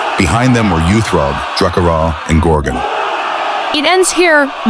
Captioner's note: with venomous triumph